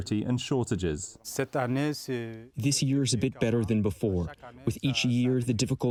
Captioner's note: through translator